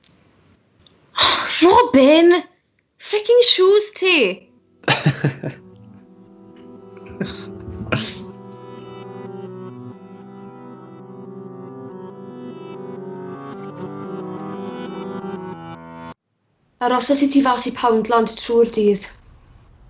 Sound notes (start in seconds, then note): 4.8 he laughs; 7.0 plaintive music